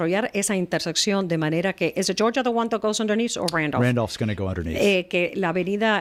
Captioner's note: Hablando ingl\s